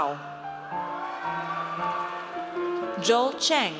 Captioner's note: audience cheers